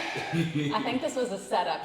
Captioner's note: laugh